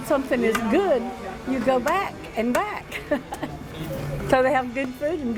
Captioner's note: chuckles